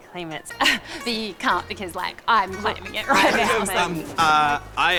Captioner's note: scoffs